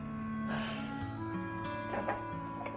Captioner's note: sighs